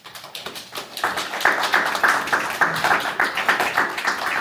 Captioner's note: group clapping